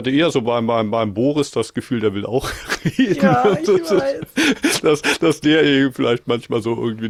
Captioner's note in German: gelächter